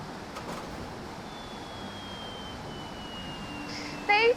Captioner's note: machine slows